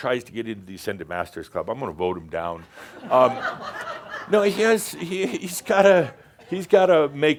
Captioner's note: laughter